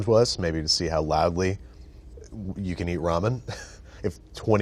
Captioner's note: laughs